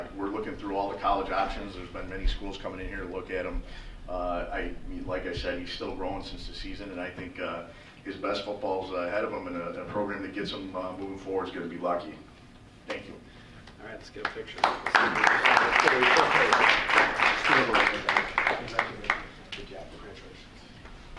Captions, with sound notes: we're looking through all the college options, there's been many schools coming in here to look at him. Like I said, he's still growing since the season and I think his best football's ahead of him and a program that gets him moving forward is going to be lucky. Thank you. >>All right, let's get a picture. (applause) >>Congratulations, good job.